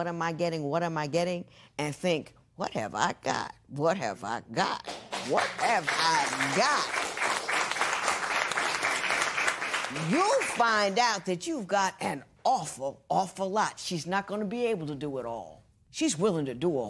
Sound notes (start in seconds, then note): 7.2 applause